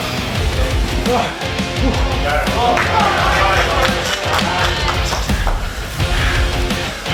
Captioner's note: man grunts; audience clapping